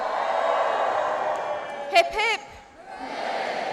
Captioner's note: cheers